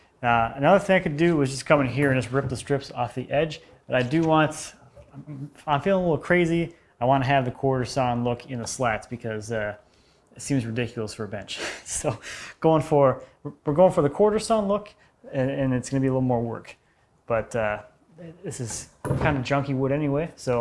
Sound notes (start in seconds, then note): none